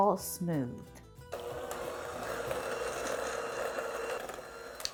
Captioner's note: low whirring